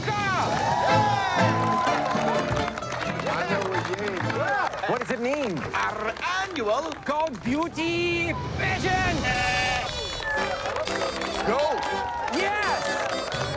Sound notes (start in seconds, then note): 0.2 cheers and applause; 8.9 bleating; 9.7 cheers and applause